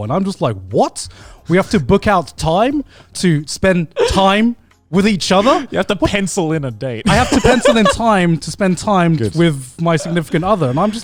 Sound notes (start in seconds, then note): 7.0 laughs